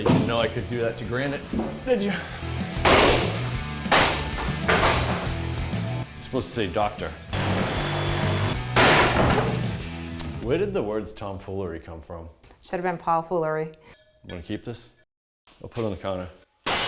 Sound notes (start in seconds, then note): 3.9 hammer banging